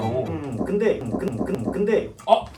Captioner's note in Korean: 꾸륵